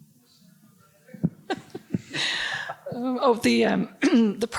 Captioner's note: woman laughs